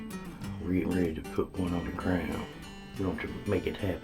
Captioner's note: upbeat music plays; talks softly